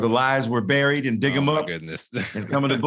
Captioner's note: laughs